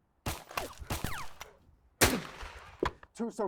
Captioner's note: another shot fired; two shots are fired